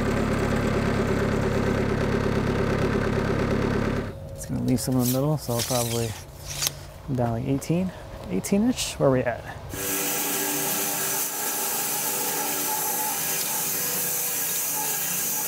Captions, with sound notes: Gonna leave some in the middle, so I'll probably come down to 18, 18-ish. Where are we at? (saw blade humming)